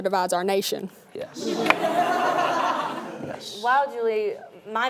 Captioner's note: laughing